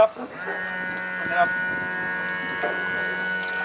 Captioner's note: motor whirs